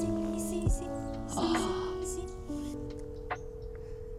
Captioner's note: gasps; ringback tone trilling